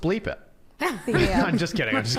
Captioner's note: laughs